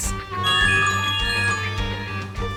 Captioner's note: dramatic music; phone jingle